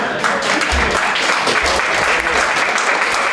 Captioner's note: applause